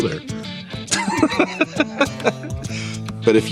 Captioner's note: laughter